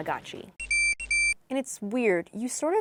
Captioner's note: beeps